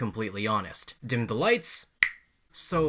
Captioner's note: snap